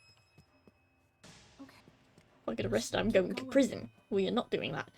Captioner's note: none